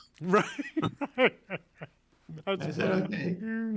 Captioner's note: laughing